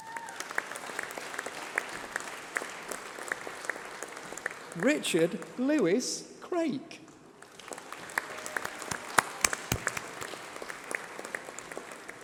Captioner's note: applause